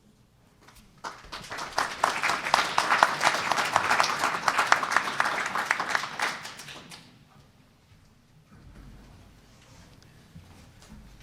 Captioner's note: applause